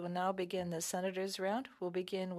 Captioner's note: speaking French